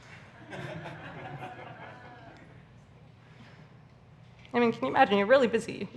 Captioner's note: audience laughs